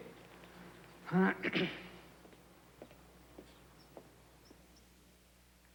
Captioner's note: Mrs. Umney clears throat